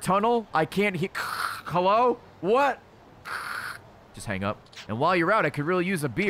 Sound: static noises

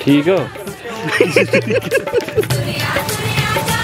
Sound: laughs

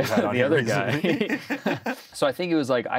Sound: both chuckle

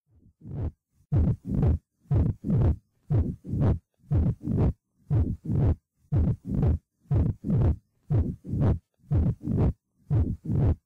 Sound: 'lub-dub-shh' muffled pumping noise

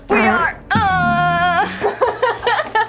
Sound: intermittent farts; moans and farts; bursts out laughing

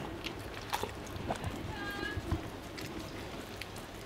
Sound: slurping

